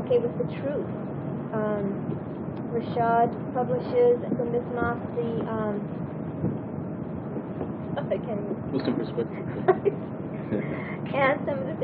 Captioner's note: gülüyor